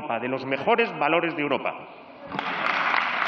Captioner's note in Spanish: Aplausos